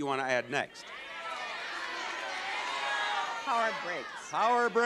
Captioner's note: audience shouting